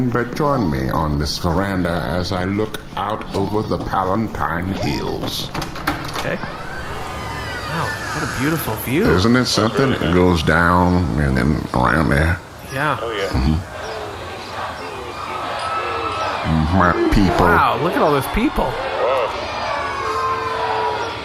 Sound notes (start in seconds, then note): 7.7 whirring, machinery opening; 13.3 audience cheering ‘Intellius! Intellius!’